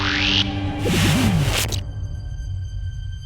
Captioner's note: fizzles out